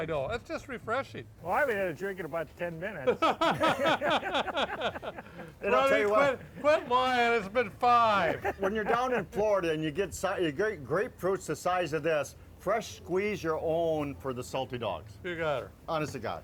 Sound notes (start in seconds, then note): 3.0 boisterous laughter